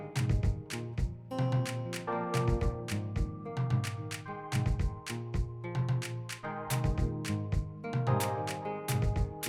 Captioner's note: applause